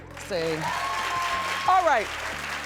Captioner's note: cheering